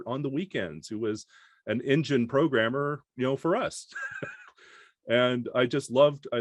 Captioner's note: laughs